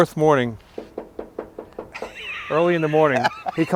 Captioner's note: knocking sounds